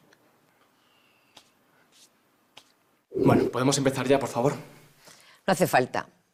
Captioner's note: none